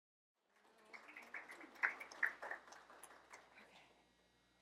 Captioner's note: applause